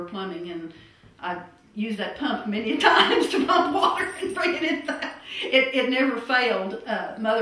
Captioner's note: laughter